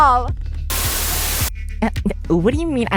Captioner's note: Static